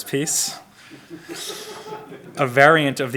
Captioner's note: audience laughs